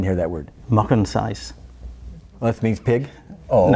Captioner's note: speaks in foreign language